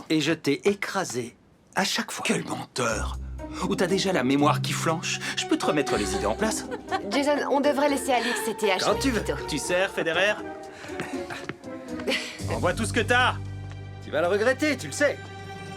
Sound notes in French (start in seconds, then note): 10.7 Sophie soupire